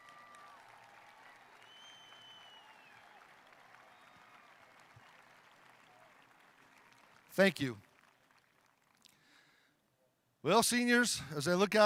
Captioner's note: cheering